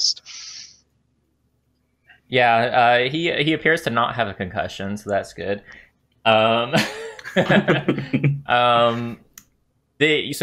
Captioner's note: laughter